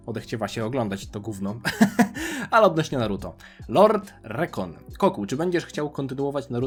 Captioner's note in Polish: śmiech